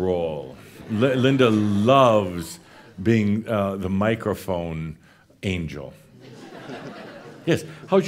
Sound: more chuckles

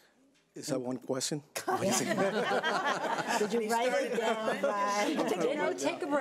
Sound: board laughing

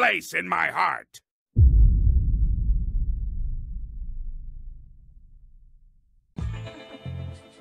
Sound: deep boom

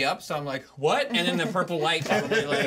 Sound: speaker laughs

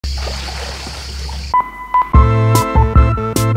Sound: water sloshes

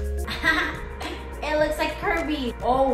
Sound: laughs

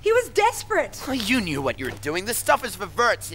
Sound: scoffs

